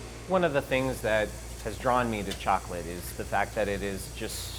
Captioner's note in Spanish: máquina zumbando